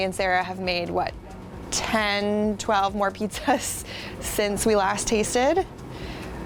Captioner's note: chuckles